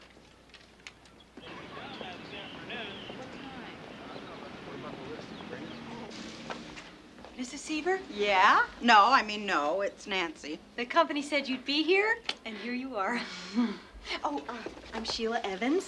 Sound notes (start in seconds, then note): 13.1 laughs